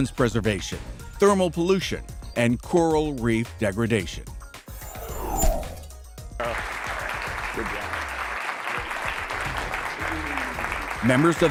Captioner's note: applause